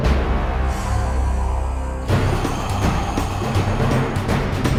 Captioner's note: heavy breathing